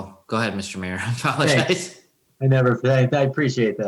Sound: chuckles

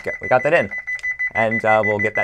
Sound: beeping

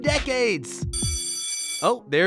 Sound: school bell rings

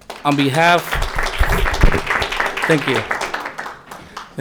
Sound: audience applauding

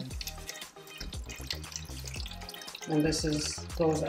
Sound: water drizzling

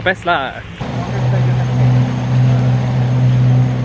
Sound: motor droning

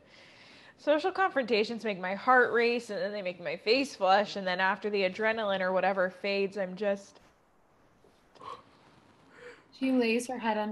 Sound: yawns

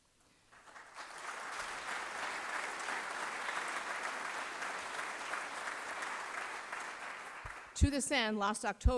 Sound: applause

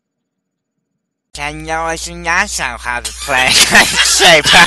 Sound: in a very weird voice

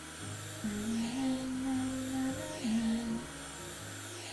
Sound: background sound humming

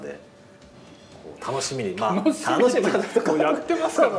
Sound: laughs

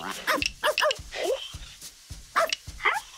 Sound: barking; jazzy beat

